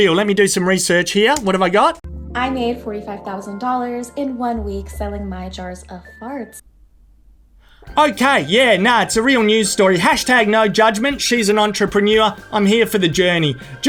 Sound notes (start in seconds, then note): 6.6 loud silence